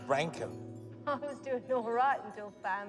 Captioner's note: laughs